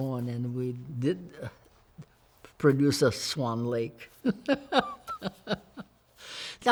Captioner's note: laughs